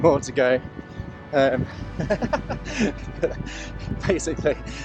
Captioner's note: laughing